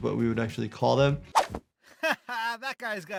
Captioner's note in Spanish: la pantalla silba; risas